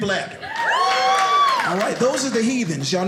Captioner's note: audience cheers